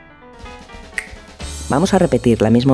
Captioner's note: snap